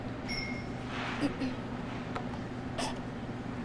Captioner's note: glass clinks